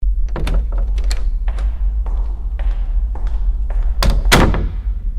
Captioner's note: door opening, footsteps